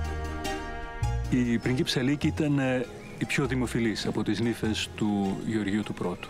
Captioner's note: speaking in foreign language